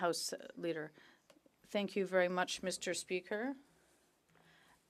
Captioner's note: speaking French